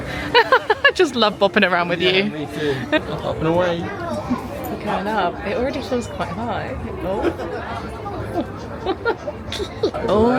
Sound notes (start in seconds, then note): 0.2 laughing; 7.0 chuckling